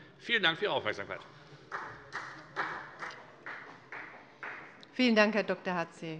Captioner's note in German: Beifall